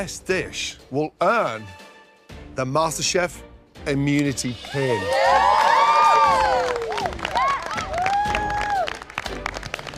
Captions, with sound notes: will earn the MasterChef immunity pin. ( cheering )